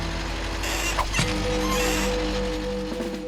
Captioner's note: clunk!